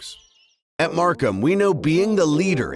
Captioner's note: voiceover